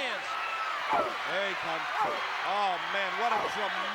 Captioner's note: applause